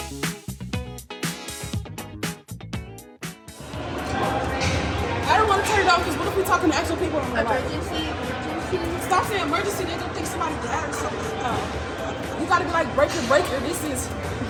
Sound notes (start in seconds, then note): 0.1 upbeat music; 4.0 ambient chatter